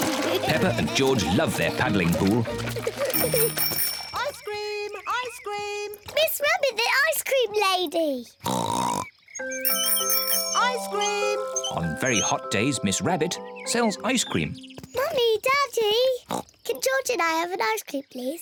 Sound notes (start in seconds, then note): 0.0 both giggle; 3.0 bell tinkles; 8.4 oinks excitedly; 9.4 rings bell